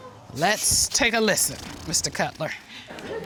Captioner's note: blows raspberries